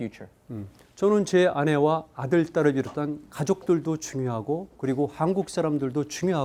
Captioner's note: speaking in Korean